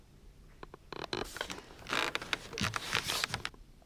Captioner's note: ceiling creaking